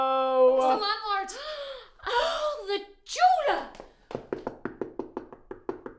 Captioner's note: gasping